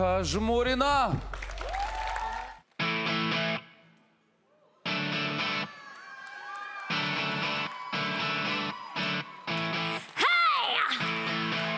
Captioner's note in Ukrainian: оплески